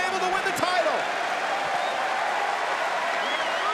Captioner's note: crowd cheering